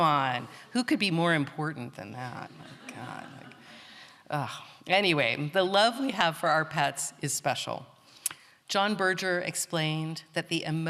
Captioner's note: laughter